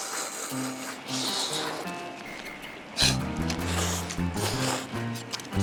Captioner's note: slurp